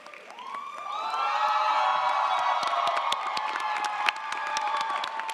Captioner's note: audience cheers